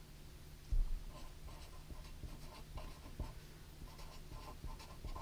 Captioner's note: pen scratching